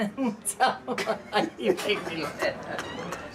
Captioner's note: laughing